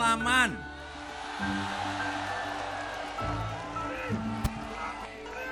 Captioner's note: people cheering